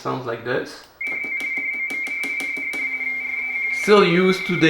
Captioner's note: RTTY Baudot tones